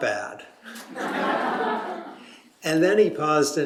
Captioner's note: laughter